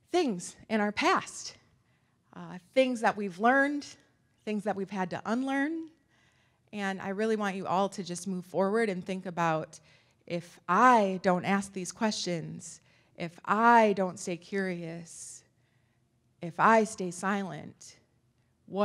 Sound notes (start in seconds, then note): none